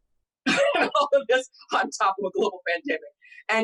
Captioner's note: laughs